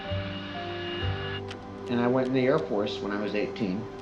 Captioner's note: plane whines